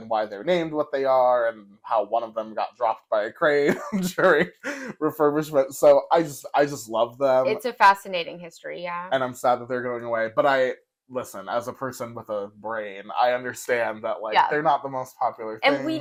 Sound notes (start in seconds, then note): 3.4 laugh